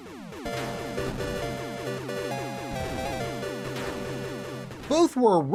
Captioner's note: Star Wars Arcade Audio